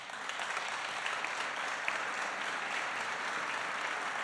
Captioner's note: applause